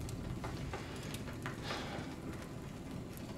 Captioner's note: Tyler sniffs; Tyler sighs; crickets chirping; fire crackling